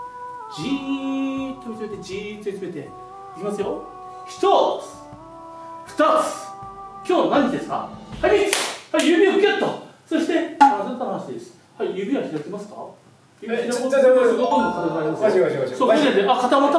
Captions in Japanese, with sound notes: じーっと見つめて、じーっと見つめて。 いきますよ。 ひとーつ、 ふたーつ、 今日は何の日ですか？ はい、みっつ！（手をたたく） はい、指をぎゅっと！ そして、すっと離していいです。 はい、指は開きますか？ 指を開こうとしても体は いや、ちょっとおかしいおかしい